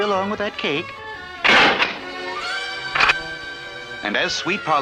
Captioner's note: door Closes & then locks